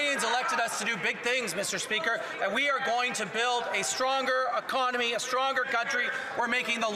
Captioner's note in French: voix de l'interprète